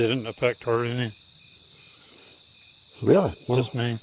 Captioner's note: crickets